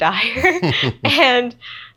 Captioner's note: both laughs